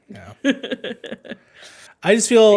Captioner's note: laughing